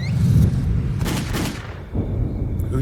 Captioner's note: gunshots